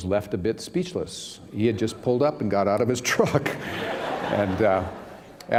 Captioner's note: laughter